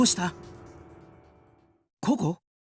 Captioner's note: silence